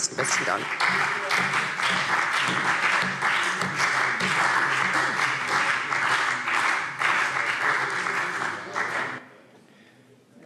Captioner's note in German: Beifall CDU und BÜNDNIS 90/DIE GRÜNEN